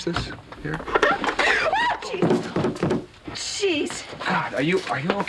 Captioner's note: yelps